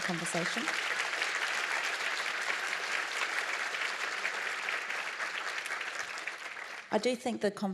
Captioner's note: applause